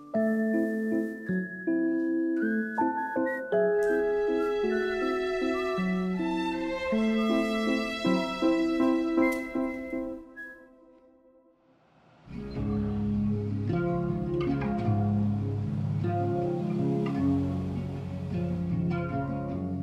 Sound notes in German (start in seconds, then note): 0.3 Verträumte Musik; 2.8 Er pfeift; 8.8 Musik endet; 12.8 Entspannte Musik